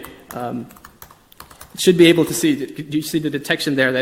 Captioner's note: typing clicks